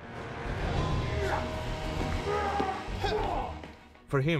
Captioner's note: grunting